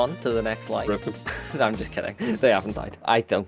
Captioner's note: laughs